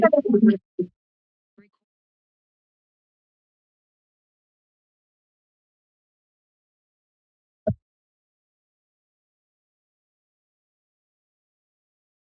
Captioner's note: silence